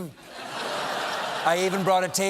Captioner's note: laughter